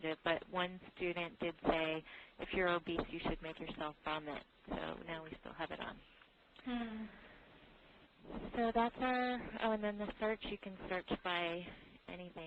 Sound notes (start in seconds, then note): none